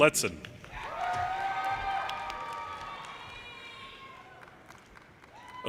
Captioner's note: audience cheers and applause